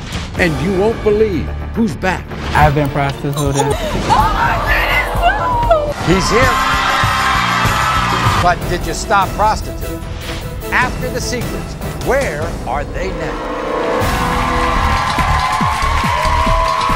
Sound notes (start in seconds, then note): 7.1 audience screaming; 13.7 applauding and cheering; 13.9 upbeat music